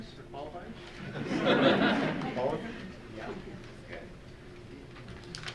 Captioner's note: audience chuckles